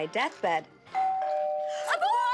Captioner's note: doorbell rings